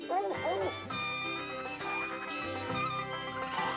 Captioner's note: lively music; dogs barking